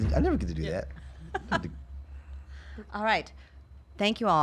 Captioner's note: laughs